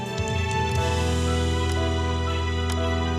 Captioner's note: clock ticking